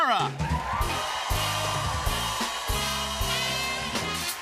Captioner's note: cheers and applause